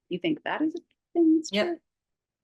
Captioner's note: mic cutting out